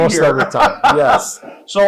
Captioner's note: laughs